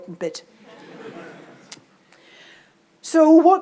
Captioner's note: audience laughs